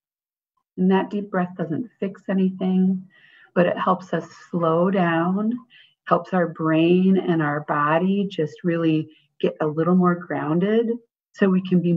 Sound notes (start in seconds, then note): 5.6 breathing